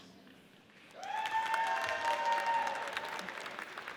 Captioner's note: audience cheers